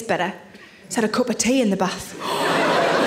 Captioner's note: gasps